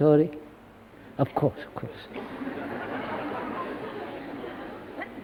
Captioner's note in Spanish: Risas